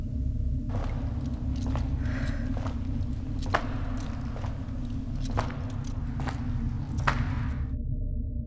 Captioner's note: retreating footsteps